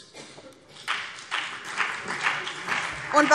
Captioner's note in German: Beifall BÜNDNIS 90/DIE GRÜNEN und CDU